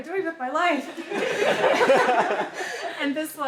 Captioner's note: laughter